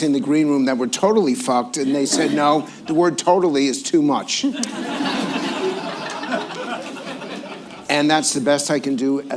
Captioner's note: laughter